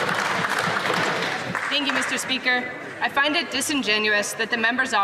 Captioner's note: some Applause